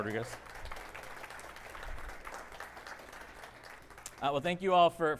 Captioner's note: audience applauding